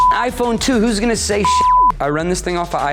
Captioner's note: beep